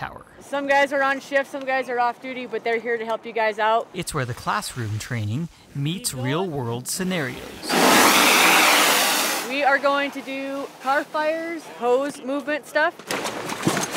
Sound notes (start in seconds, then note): 7.7 water hitting car